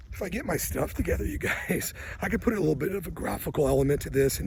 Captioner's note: laughs